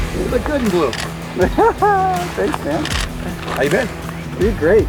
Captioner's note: laughs